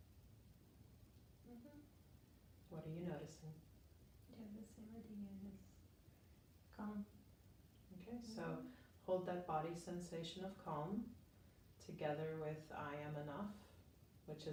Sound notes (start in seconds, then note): 4.8 speaking faintly